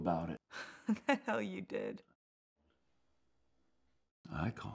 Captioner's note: laughs